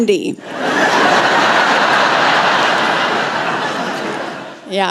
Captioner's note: laughter